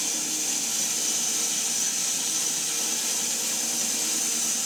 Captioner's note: saw buzzing continues